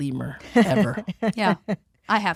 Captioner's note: chuckles